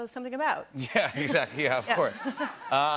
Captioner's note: laughter